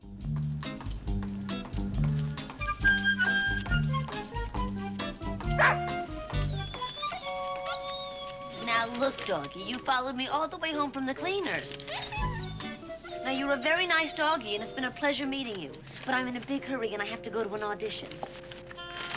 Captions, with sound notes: (dog barks and whines) Now, look, doggie, you followed me all the way home from the cleaners. Now, you're a very nice doggie and it's been a pleasure meeting you, but I'm in a big hurry and I have to go to an audition.